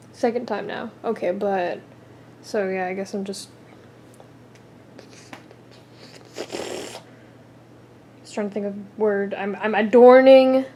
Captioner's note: blows raspberry